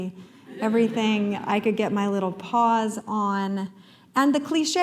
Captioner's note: laughter